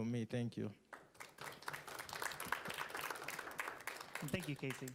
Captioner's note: applauding